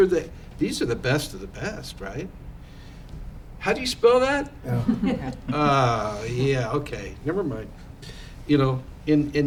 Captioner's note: laughter